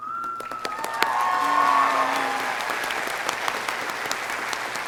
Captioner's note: audience applauding